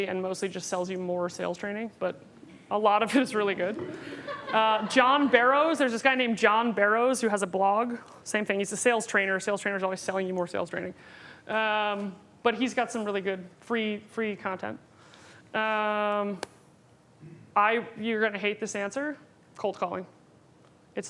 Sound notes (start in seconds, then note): 3.8 laughing